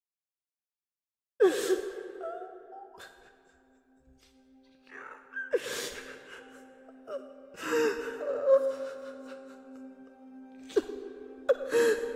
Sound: pinkie cries

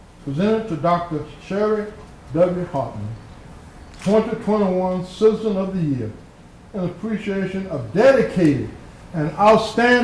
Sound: applause

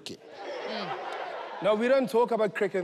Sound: laughter

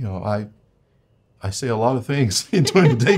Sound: both laughing

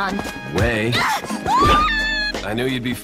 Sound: reasonable screaming

